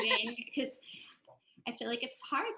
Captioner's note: laughs